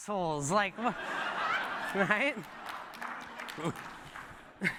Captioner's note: laughter